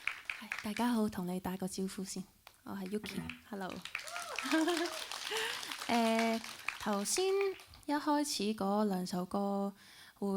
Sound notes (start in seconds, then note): 0.0 applauds; 3.0 applause and cheers; 4.1 laughs